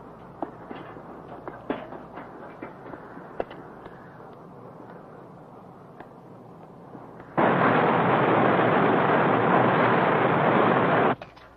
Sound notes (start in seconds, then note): 0.0 footsteps receding; 4.1 wind whirring; 7.3 boat rumbling